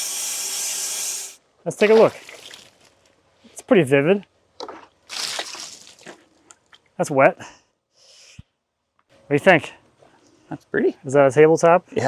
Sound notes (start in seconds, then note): 1.7 water splashing